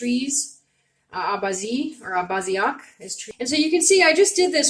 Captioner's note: speaking Abenaki Language